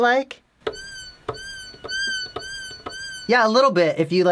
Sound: continues playing high-pitched meows

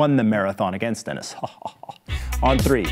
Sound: laughs

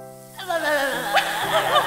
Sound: laughing; silly noises

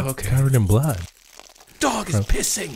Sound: pee sounds

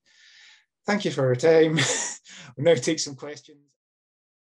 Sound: laughs

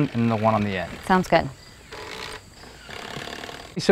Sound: drill whirring

